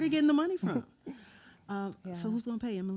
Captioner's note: chuckles